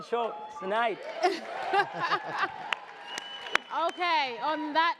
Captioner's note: audience cheers; laughter